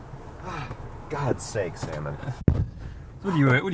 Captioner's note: sighs